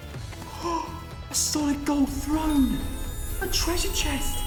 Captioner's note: gasps